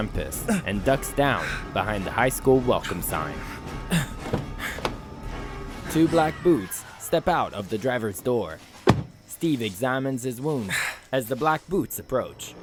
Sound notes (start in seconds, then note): 4.1 car door opens; 8.8 car door closes